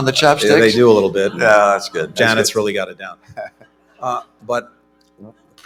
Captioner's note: laughter